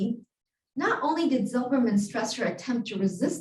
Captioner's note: Hebrew